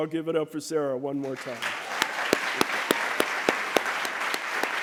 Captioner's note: applause